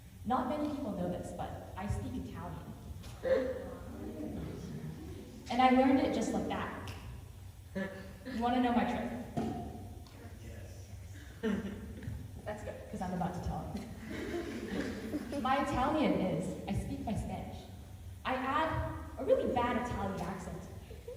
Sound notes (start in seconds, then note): 3.5 intrigued murmurs; 6.8 snap